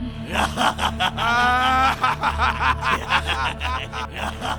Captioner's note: laughing maniacally